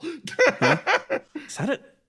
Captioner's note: laugh